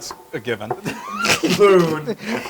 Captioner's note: laugh